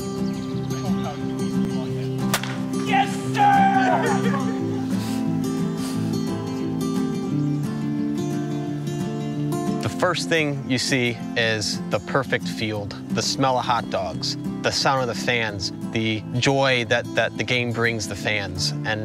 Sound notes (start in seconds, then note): 2.3 baseball hitting a bat; 3.1 someone shouting; 4.1 laughing softly